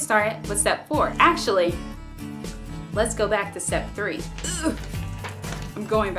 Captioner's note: grunting noise